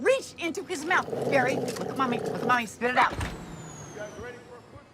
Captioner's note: barry growls, barks